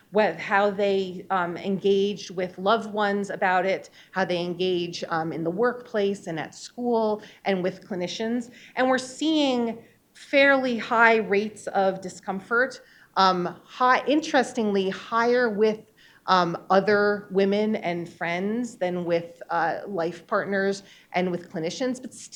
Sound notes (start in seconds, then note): none